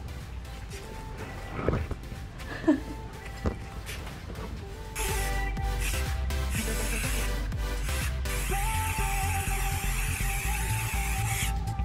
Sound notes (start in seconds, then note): 1.4 sniffs; 4.9 aerosol paint spraying